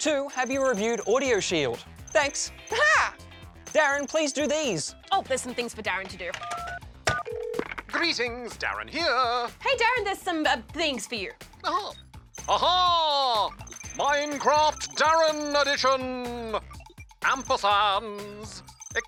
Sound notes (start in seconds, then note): 7.1 line rings